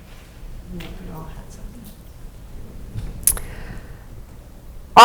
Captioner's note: speaks off microphone